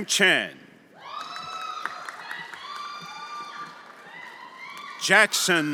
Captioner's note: everyone applauding and cheering